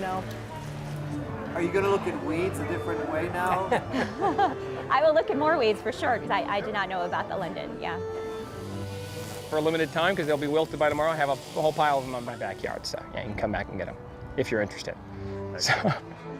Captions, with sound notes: - For a limited time 'cause they'll be wilted by tomorrow, I have a whole pile of 'em in my backyard so you can come back and get 'em if you're interested. (laughs) (violin music)